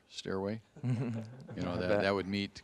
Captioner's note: audience chuckling